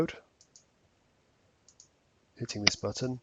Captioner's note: mouse clicking